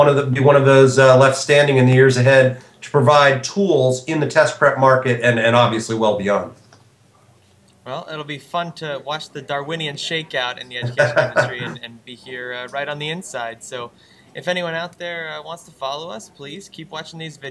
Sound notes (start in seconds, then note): 10.7 laugh